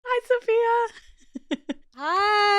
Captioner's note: laughs